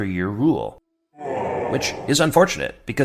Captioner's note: deeper crowd groans